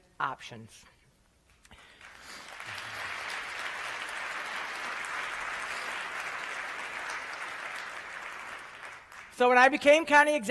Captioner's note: applause